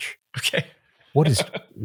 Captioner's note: laughs